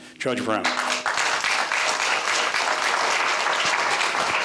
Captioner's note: applause